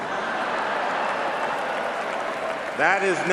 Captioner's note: laughing